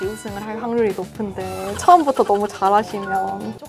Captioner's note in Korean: none